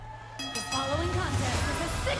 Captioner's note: bell ringing